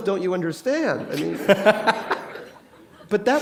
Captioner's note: laughter